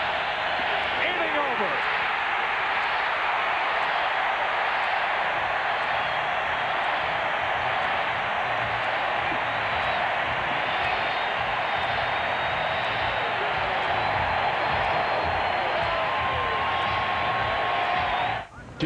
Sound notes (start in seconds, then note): 6.3 cheering